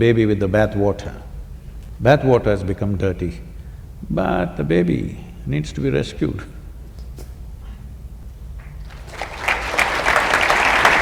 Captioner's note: laughs; applause